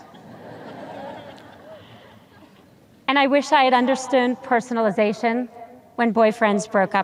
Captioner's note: audience chuckles